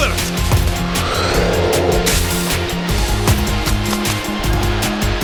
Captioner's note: ball whooshing